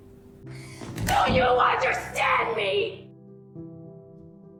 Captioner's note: exhaling; shouting